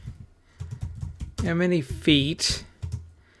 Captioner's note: typing